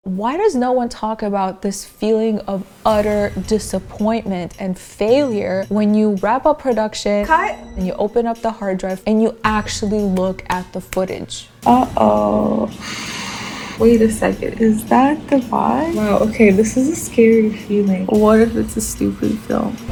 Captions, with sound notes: - Why does no one talk about this feeling of utter disappointment and failure when you wrap up production? - Cut! and you open up the hard drive, and you actually look at the footage. Uh-oh... (deep breath) - Wait a second, is that the vibe? Wow, okay, this is a scary feeling. What if it's a stupid film?